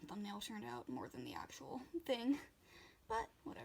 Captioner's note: laughs